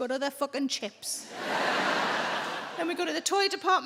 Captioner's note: audience laughing